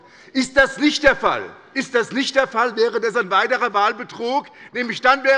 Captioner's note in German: none